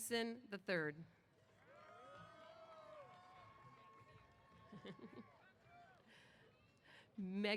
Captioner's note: applause & Cheers